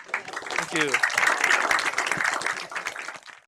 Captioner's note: applause